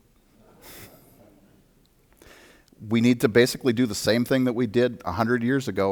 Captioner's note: audience laughter